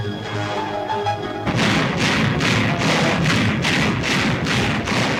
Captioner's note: cannons firing